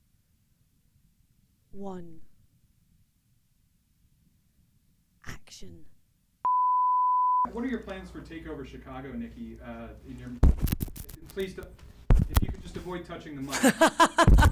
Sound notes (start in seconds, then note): 6.4 tone